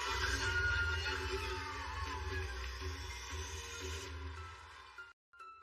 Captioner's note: cheers and applause